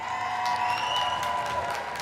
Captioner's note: applause